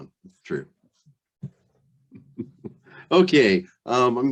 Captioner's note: laughs